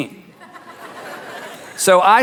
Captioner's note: audience laughs